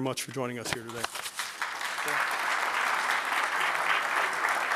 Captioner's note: applause